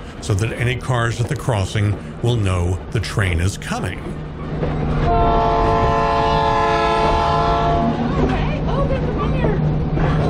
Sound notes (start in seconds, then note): 5.0 train Horn; 7.8 sounds of excited passengers